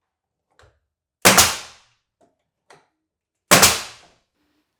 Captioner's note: nail gun popping